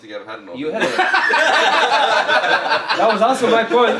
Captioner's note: laughing